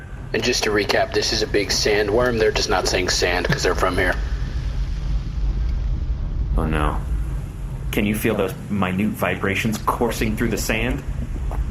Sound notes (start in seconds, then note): 4.5 in the distance, the earth begins rumbling